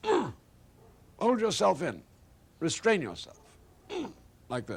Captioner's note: grunts